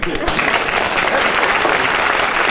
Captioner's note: applause